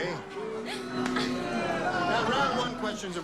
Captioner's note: audience booing